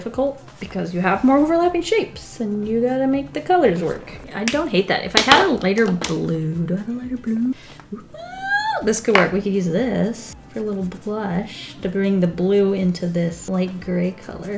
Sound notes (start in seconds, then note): 7.9 squeals excitedly